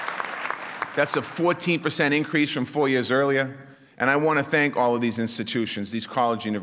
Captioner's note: applause